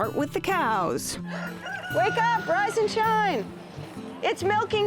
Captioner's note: rooster crows